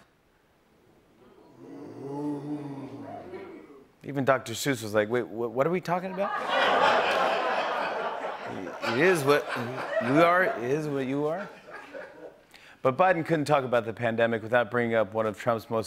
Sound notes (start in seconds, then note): 6.1 laughter